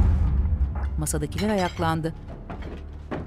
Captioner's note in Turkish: Çatal sesi